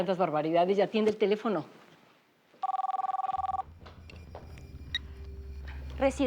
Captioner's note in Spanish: Suena el teléfono